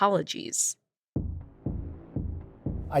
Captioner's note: soundbite of archived recording